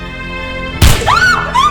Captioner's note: gunshot